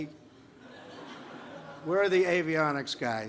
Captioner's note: laughter